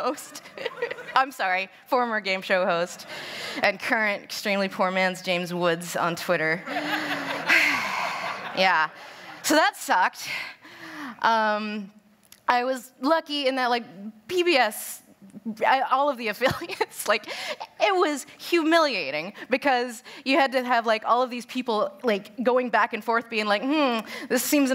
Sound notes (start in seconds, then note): 0.2 laughs; 6.6 laughter; 16.4 laughs